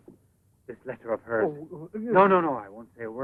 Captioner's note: Sacha mumbles